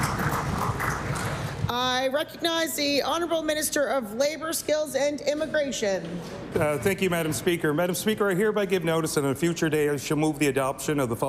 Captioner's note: applause